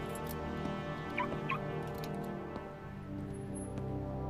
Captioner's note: car beeping